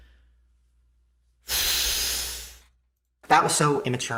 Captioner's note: sighs